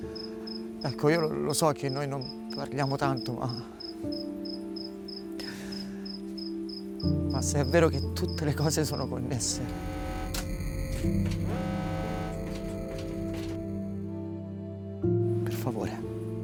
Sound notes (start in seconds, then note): 9.4 alarm sound blaring; 13.8 soft music playing